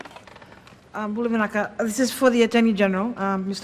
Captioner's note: speaks own language